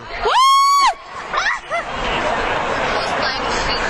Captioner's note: screaming